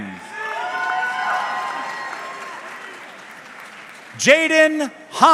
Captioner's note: audience cheering